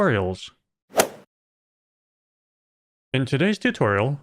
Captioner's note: golf ball hit sound